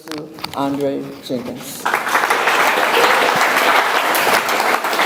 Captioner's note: audience applauds